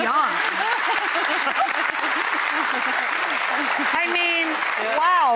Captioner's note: audience applauding